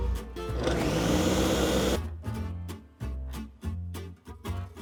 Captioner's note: blender whirring